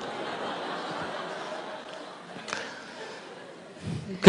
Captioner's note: audience laughter